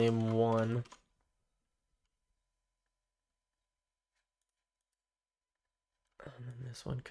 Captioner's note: silence